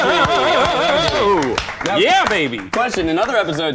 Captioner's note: clapping